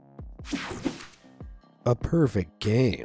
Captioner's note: screen whooshing